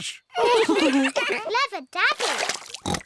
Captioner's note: all laugh